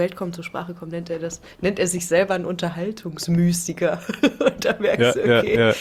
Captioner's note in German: gelächter